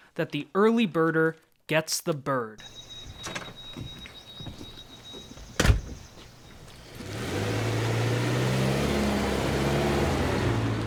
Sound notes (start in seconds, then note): 2.6 birds singing; 5.7 door closes; 6.2 engine revving